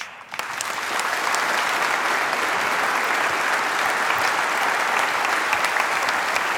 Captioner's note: applause